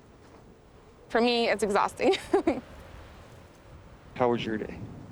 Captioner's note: laughs